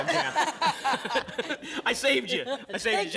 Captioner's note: laughter